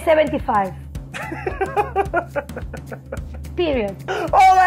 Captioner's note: laughing